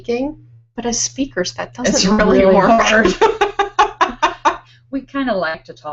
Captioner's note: laughing